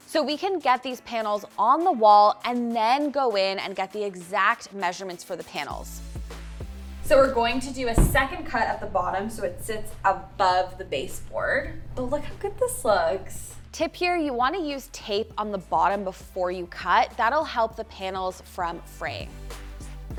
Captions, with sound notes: so we can get these panels on the wall, and then go in and get the exact measurements for the panels. (upbeat music continues) So, we're going to do a second cut at the bottom (panel thudding) so it sits above the baseboard. But look how good this looks. Tip here, you wanna use tape on the bottom before you cut, that'll help the panel's front frame.